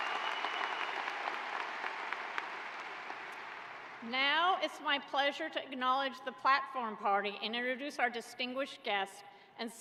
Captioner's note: applause